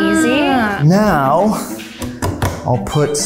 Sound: taps

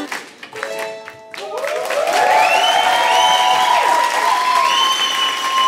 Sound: applause

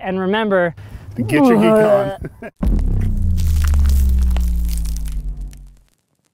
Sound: moaning

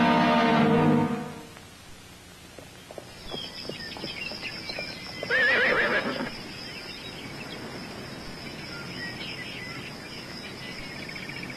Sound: birds chirping horses neighing

